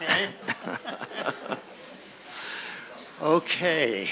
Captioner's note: chuckling